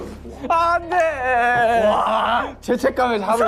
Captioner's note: Menangis